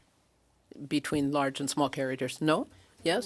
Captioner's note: speaking French